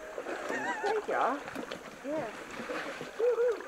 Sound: laughter

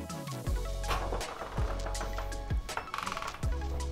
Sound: door opening

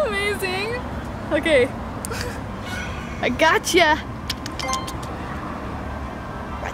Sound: clicks tongue

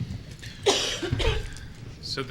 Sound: coughing

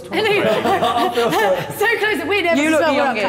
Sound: Sidemen laughing

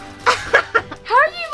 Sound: laughter

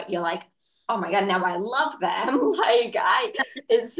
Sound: laughs

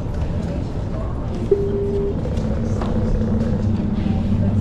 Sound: console chimes

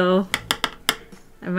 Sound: paintbrush tapping

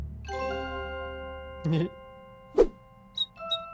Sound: cheeky Giggle

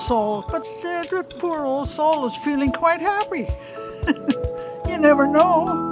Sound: laughs

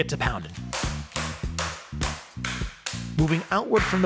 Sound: slapping

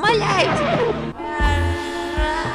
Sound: inhale

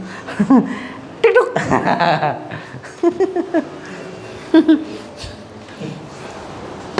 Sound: laughs

